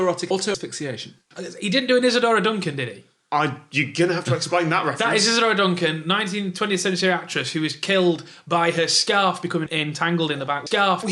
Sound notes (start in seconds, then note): none